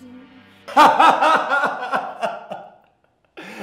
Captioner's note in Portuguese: risada escandalosa